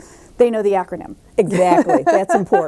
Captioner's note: laughs